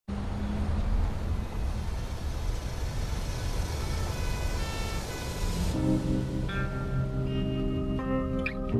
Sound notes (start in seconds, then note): 0.2 faint siren wailing; 5.1 slow pop music